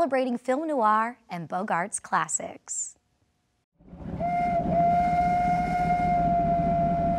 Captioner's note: whistle sounding